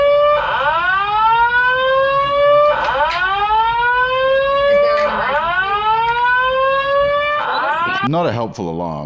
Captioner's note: alarm blaring; alarm continuing